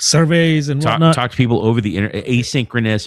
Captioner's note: uh